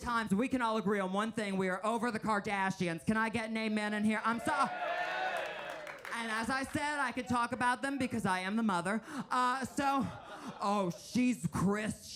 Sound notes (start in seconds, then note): 4.1 audience cheering